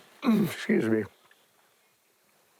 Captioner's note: clears throat